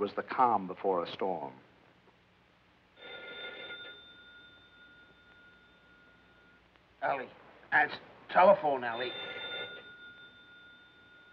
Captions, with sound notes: I should have known it was the calm before a storm. [phone ringing] -Ellie. Answer the telephone, Ellie.